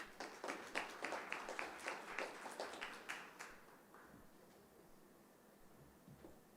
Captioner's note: applause